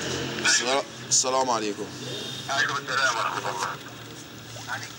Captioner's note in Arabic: الصوت المنطوق باللغة العربية